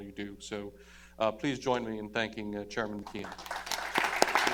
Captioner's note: applause